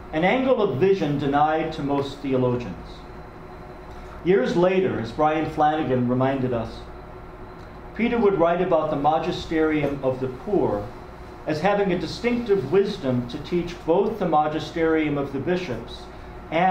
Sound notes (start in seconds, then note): none